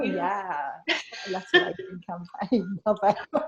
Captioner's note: laughs